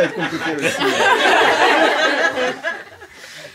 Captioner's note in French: rires